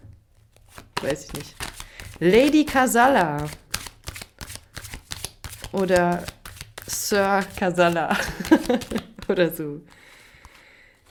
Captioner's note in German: gelächter